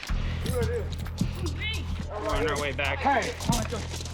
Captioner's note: officers chattering indistinctly